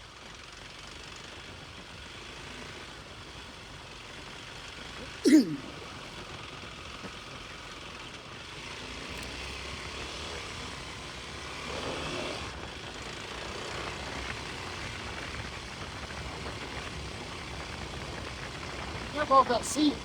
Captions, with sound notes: (clears throat) You're both up to sea.